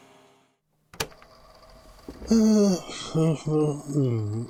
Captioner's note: tape recorder clicks on, sighs & mumbles